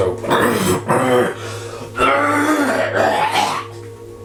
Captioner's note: coughing